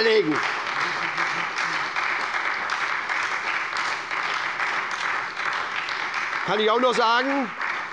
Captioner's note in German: Beifall bei der SPD und bei Abgeordneten der FDP